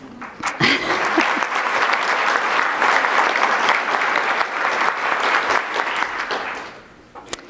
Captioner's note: applause